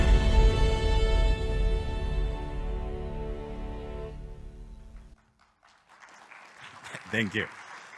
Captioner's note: applause